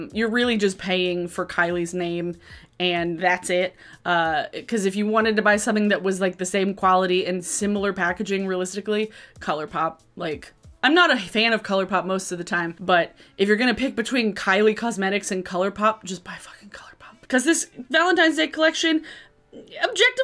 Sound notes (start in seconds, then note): none